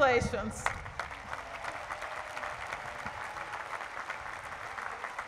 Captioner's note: applause